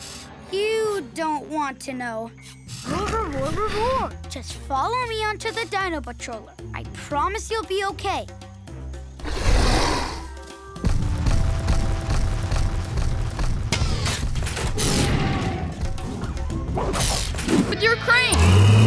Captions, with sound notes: You don't want to know. [speaking dinosaur] Just follow me on to the dino patroller, I promise you'll be okay. [roaring] [roaring] With your crane!